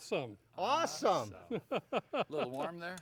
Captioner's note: laughing